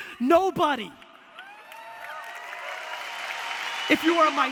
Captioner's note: audience applause